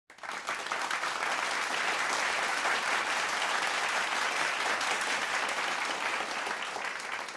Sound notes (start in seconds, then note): 0.1 audience applauding